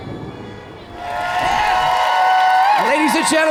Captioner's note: audience cheers